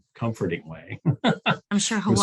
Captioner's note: laughs